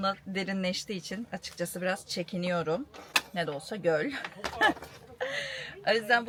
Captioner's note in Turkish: kahkaha